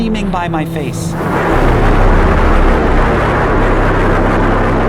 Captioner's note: wind roaring